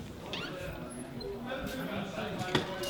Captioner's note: door creaking